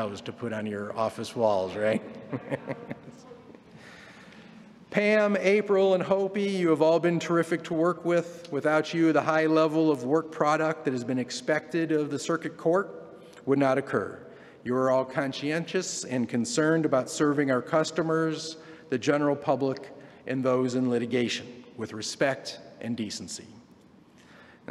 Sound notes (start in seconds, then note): 4.0 laughter